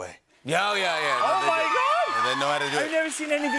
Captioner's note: cheers and applause